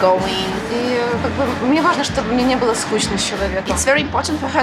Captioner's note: speaks ukrainian